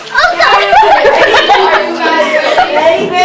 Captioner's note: laughing